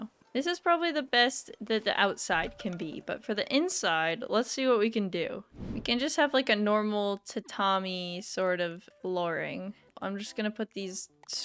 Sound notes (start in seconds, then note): none